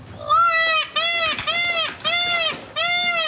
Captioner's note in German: Pfauenschrei